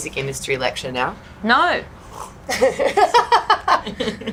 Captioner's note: others laugh